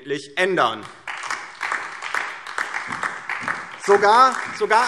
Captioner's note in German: Beifall DIE LINKE und SPD